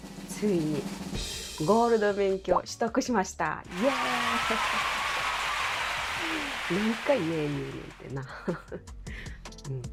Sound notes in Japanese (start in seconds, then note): 3.7 大歓声